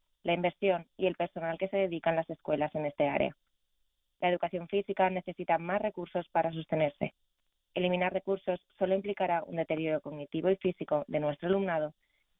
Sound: speaking spanish

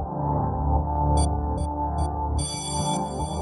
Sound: bell ringing

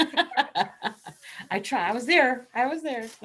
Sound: laughing

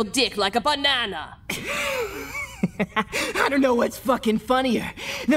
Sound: giggles

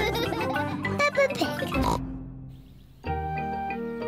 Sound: all laughing; snorts

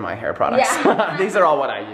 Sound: laughs

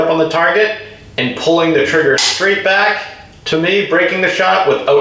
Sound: gun snaps

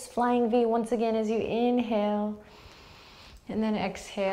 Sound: deep breath

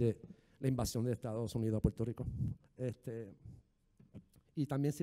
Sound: speaking in foreign language

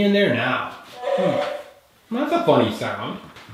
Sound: moaning

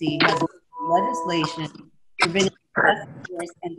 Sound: audio glitch

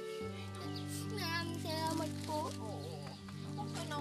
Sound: sniffling

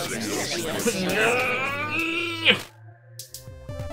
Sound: Sara groans

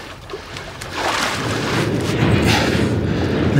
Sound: train noises

